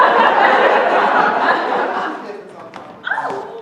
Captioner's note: laughter